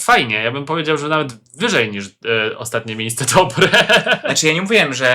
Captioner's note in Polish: śmiech